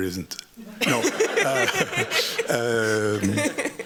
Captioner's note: laughter